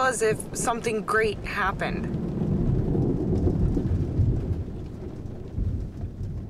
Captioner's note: thunder rumbling